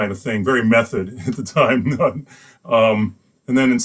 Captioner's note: laughs